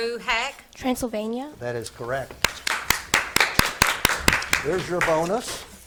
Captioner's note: spectators clap